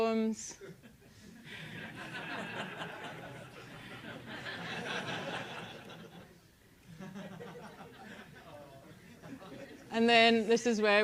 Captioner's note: laugh